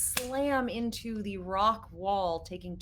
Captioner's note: palms slapping